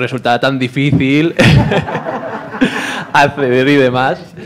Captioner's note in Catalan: riures